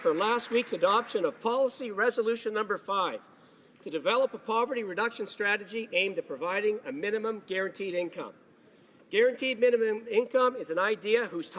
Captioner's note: applause